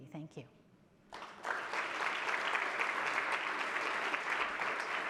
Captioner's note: audience applauds